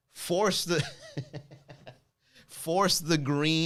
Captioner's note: laughs